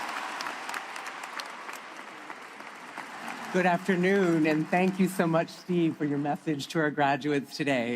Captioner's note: applause